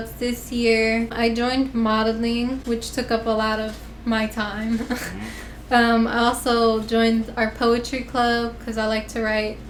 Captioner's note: laughter